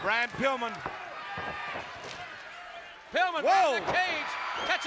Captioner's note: applause